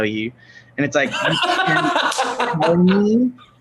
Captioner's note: laughs